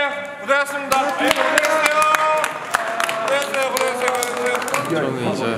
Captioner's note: applause